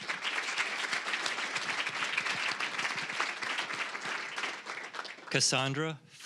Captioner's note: applause